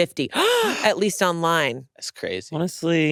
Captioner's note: gasps